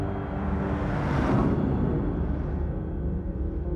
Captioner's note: logo whooshes